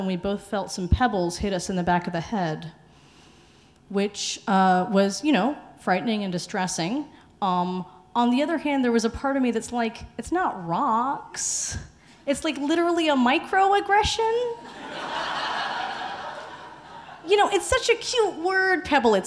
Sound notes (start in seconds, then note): 14.6 audience laughing